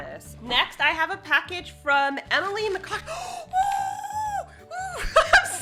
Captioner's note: gasps